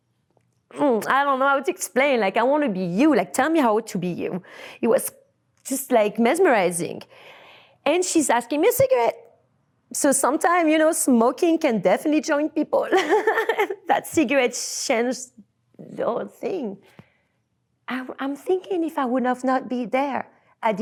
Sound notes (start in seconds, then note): 12.6 laughs